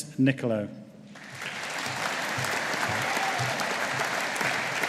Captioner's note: audience applauding